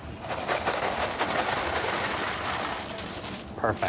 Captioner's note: cereal crinkling